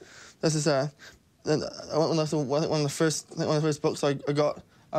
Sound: none

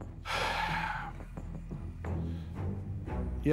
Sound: sighs

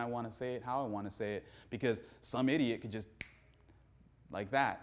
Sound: snaps

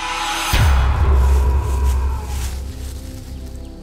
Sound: bang

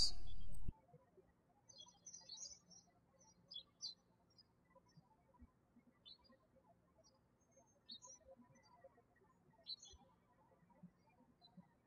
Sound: birds chirping

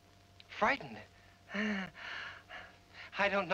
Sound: chuckles

